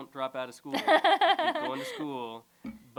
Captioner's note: laughter